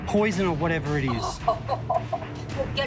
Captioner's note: laughs